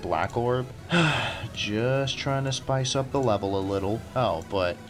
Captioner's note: sigh